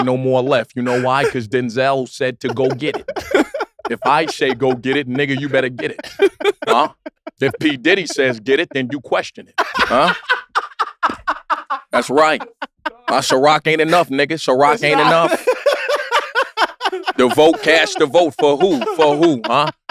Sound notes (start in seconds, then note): 3.7 laugh; 9.9 laugh; 14.5 laugh